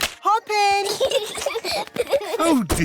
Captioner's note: peppa and george giggling